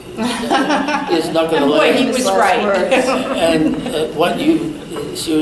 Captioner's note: all laugh; sarcastically